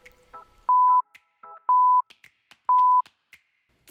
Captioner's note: beeping